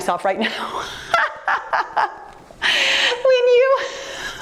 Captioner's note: laughing